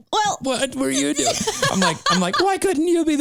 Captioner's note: laughing